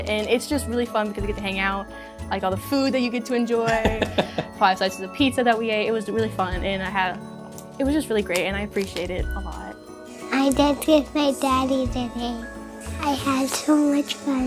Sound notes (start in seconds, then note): 3.6 laughs